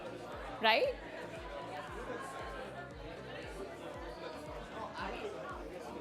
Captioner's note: chatter